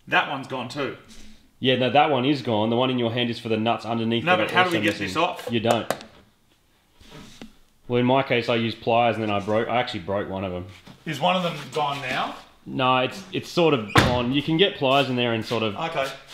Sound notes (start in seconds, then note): 6.0 tapping; 13.8 door closes